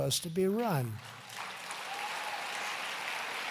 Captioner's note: applause